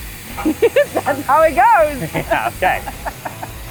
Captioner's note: laughs